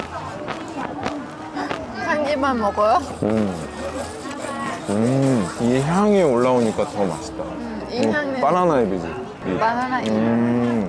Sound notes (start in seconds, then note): 2.8 laughing